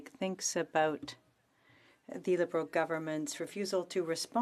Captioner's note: speaking french